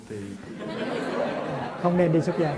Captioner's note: audience laughs out loud